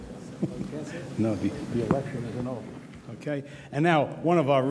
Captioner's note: whispers